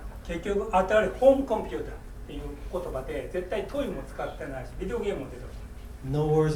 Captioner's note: speaking in foreign language